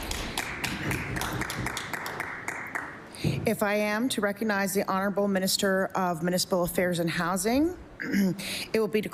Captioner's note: applause